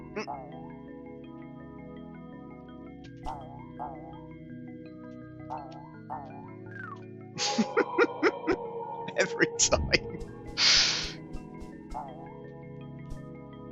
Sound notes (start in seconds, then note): 1.5 laughs